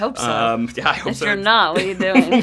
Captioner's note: laughs